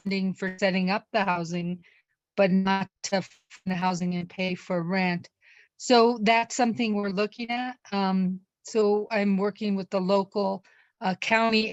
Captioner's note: distorted Audio